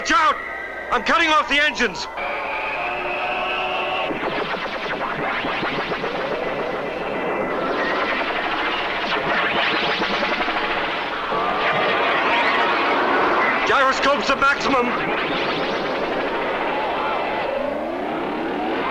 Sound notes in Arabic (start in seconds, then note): 1.3 هدير محركات الصواريخ